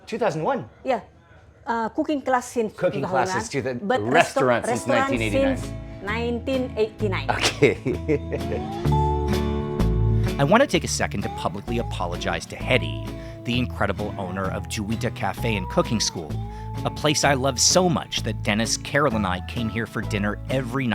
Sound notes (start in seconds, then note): 7.2 laughing